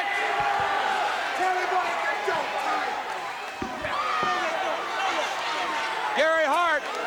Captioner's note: crowd cheering